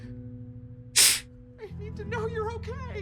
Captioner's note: sniffles